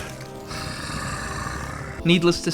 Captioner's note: growl